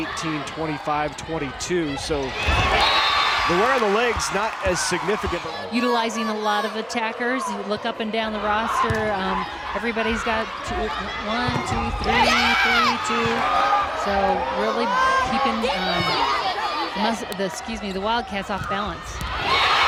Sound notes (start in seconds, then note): 2.6 crowd cheering